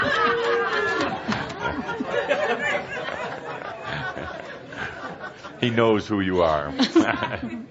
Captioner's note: lots of laughter